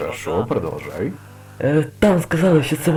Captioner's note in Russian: тяжёлое дыхание